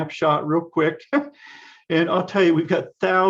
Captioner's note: laughs